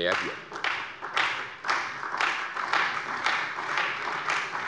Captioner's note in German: Beifall bei der CDU und dem BÜNDNIS 90/DIE GRÜNEN